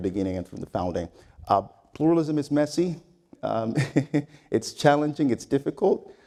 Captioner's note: laugh